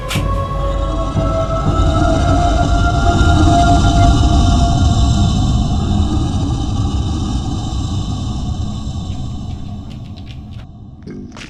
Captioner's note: dog footsteps; dog biting; loud beastish growl